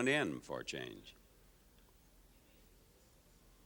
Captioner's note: audience quiet